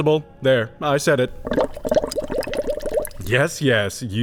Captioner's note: bubbling